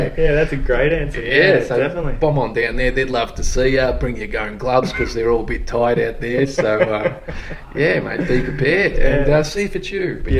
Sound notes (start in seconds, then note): 0.2 laughs; 5.8 laughs